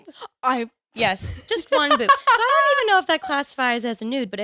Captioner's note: all laughing